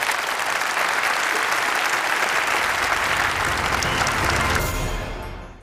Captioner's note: applause